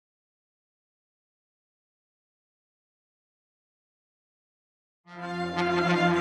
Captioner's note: silent; orchestral music playing